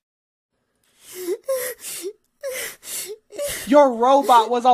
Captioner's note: sobbing